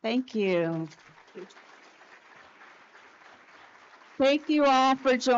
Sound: audience applauds

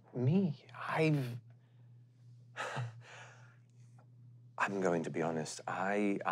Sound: laughs

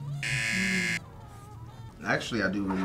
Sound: buzzer rings

